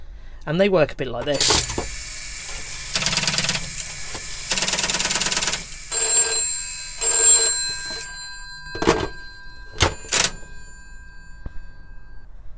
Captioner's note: dialling and ringing noises